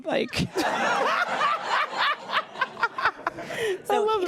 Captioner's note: laughs loudly